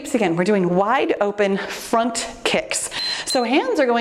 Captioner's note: timer beeps